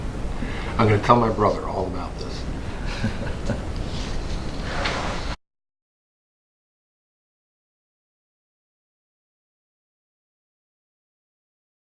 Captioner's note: laughs